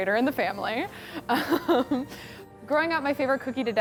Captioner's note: laughs